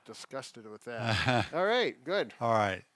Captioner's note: chuckles